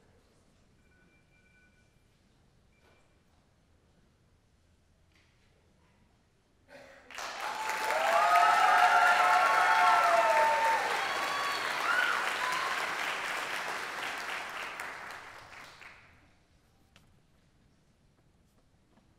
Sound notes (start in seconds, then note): 6.6 applause